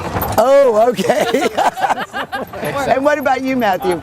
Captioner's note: laughter